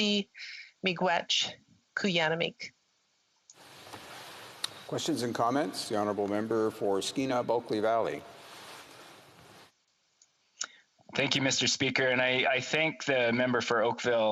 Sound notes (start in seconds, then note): 6.7 speaking alternate language